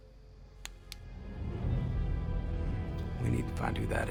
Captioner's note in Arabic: نقرات مصباح يدوي